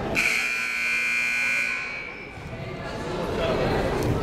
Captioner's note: buzzer blaring